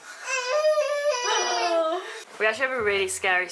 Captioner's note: Rupert wails in background